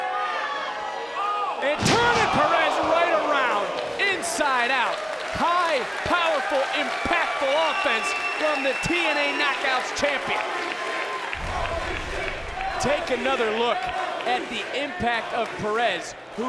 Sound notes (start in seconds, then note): 11.4 audience chanting